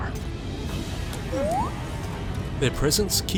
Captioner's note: bd-1 chirps